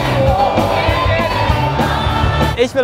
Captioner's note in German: Partylärm, Musik